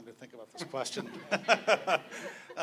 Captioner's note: laughs